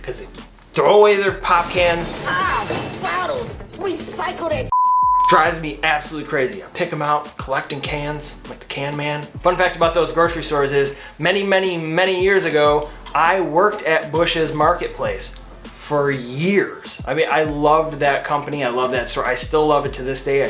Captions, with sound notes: 'cause they throw away their pop cans. - Ow, bottles. Recycle that (beep). - Drives me absolutely crazy. I pick 'em out, collecting cans, I'm like the can man. Fun fact about those grocery stores is many, many, many years ago I worked at Busch's Marketplace, for years, I mean, I loved that company, I love that store. I still love it to this day.